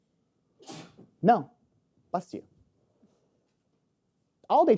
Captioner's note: attendee sneezes